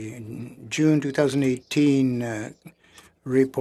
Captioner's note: speaking French